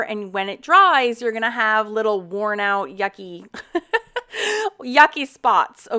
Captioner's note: laughs